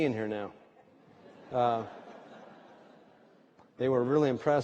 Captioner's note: laughter